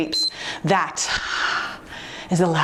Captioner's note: timer beeps; exhales deeply